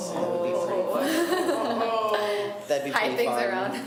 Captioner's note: laughs